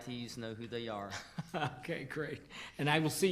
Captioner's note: laughing